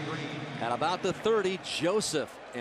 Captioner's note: pa announcement